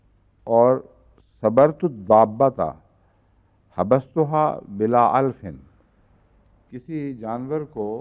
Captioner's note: Arabic